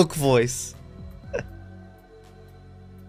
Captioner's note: chuckles